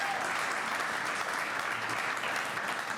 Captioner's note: applause